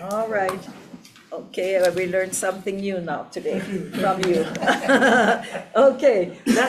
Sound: laughs

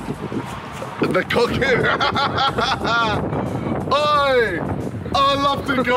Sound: laughs

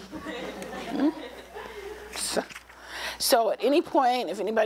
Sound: laughter

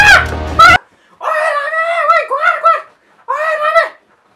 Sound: screams for help

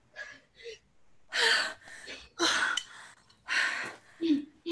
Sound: heavy breathing

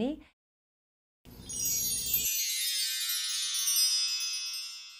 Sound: bells chiming

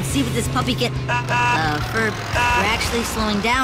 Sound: horn honking

